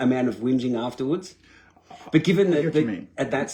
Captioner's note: giggling